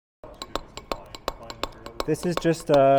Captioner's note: metal hammering